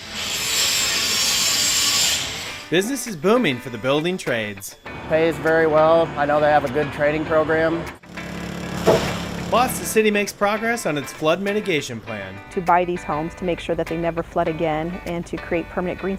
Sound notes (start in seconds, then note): 0.0 sound of welding; 0.3 theme music; 8.1 sound of home demolition